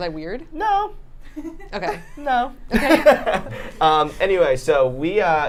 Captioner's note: high-pitched voice